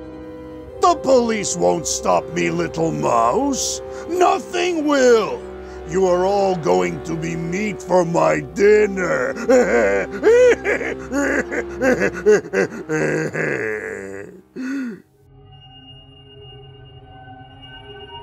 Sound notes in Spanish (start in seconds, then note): 11.7 risa malvada